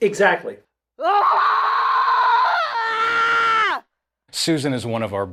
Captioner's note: screaming